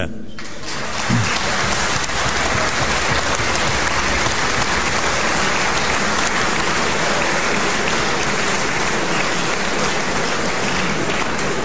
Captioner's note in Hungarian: Taps a kormánypártok soraiban